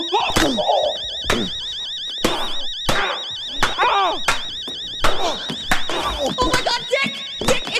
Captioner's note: grunting